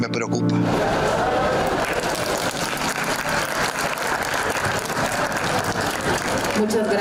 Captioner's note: aplause